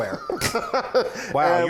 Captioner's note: laughing